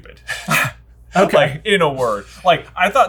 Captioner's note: laughing